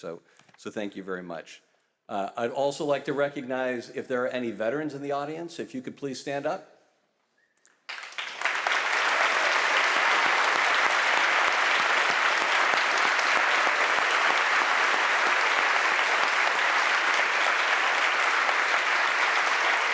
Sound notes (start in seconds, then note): 8.0 audience applauding